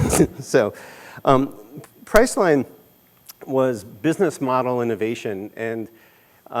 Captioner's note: laughter